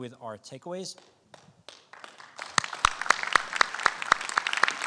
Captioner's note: audience applause